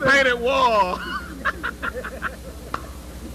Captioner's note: laughter